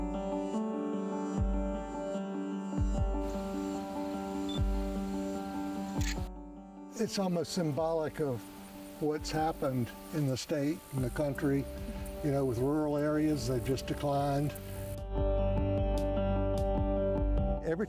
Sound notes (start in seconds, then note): 0.1 upbeat music; 5.9 camera clicks; 15.5 upbeat music